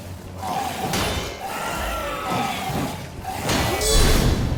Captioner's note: enemies shrieking; zombies growling